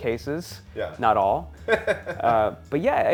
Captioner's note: laughs